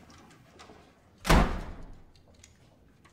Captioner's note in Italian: porta si chiude